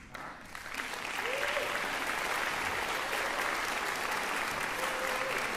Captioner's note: cheering, applause